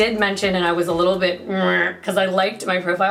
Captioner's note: groaning